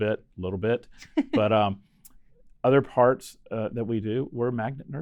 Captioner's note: chuckling